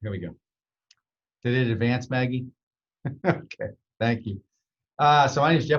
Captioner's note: nods, laughs